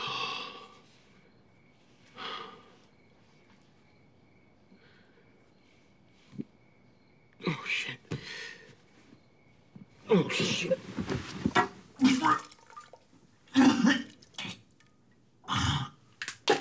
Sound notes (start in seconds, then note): 0.0 sighs; 11.8 vomiting